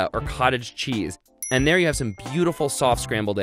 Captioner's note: dings